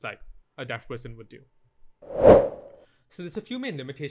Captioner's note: transition whoosh